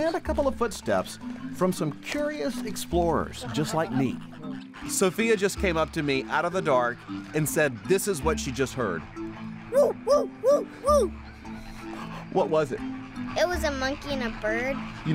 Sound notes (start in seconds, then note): 9.1 hooting